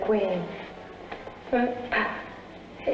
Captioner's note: laughing